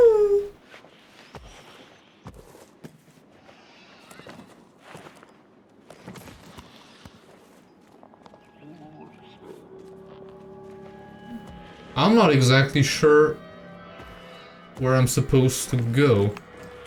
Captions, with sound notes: [Sighs] I'm not exactly sure where I'm supposed to go.